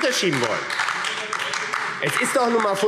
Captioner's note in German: Beifall AfD – Zurufe